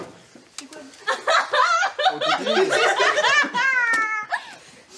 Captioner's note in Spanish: Risas